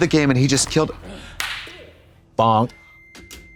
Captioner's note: neck snapping